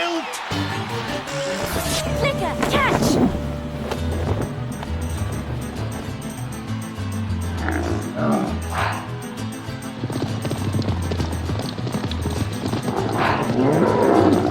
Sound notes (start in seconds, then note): 7.7 grunting